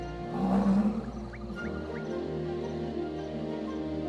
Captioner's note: rhino grunting